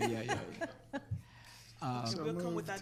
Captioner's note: laughs